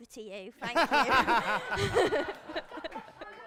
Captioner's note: laughter